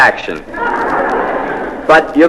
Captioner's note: laugh